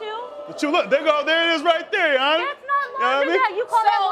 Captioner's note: crowd groaning